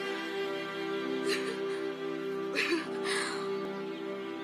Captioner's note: laugh